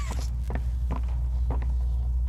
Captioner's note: footsteps